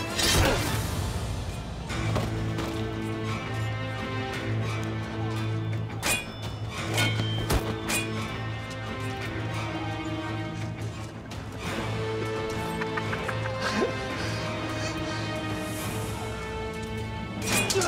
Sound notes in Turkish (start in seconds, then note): 6.0 Kılıç sesleri; 12.5 Gülme sesi; 17.4 Kılıç sesleri